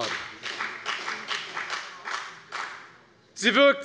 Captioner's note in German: Beifall bei der FDP